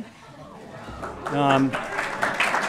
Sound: applause

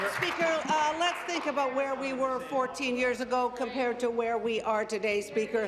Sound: applause

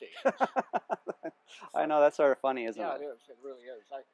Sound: laughs

